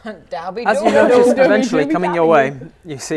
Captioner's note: minotaur speak